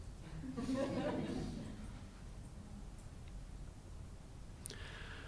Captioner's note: audience laughing